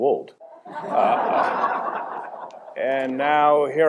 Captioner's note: laughter